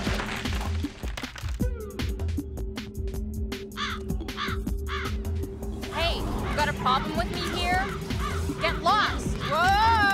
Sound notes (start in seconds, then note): 3.7 cawing